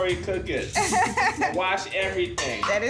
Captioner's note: laughing